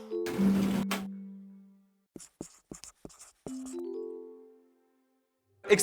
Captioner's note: whooshing, scratching, bright music